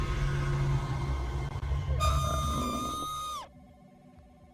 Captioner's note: suspenseful music on TV; actor screaming on TV